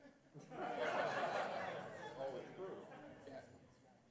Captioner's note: laughter